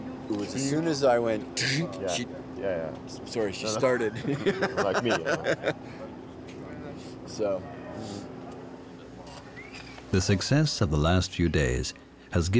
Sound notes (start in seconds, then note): 3.9 chuckles